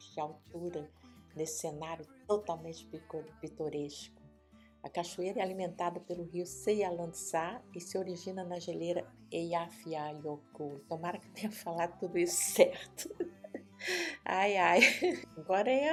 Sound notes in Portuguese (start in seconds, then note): 14.7 risos